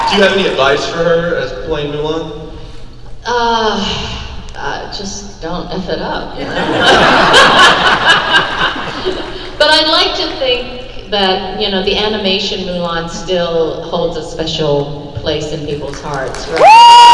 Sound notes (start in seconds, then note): 6.4 crowd laugh